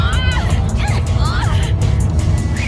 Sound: both grunting

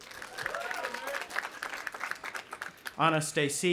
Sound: audience applauding

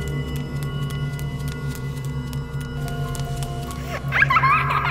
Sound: footsteps pattering; child laughing

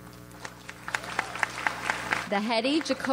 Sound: audience applauds

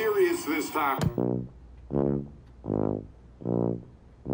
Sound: click

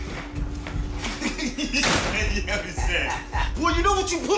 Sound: laughs

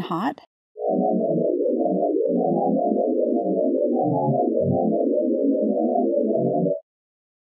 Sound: white Dwarf sonification plays

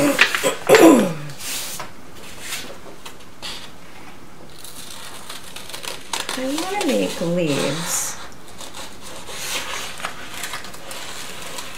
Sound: scissors cutting paper

